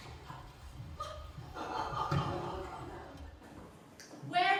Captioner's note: laughter